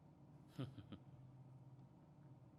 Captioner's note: smug laughter